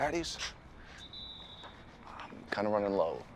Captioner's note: distant whistle screeching